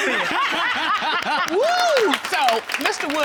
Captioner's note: all laughing